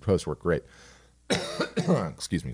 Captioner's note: coughs